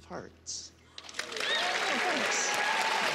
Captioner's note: applause